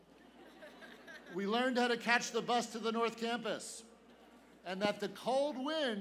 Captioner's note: laughter